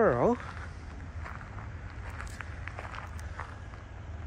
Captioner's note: walking on gravel